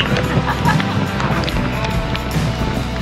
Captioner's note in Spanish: risas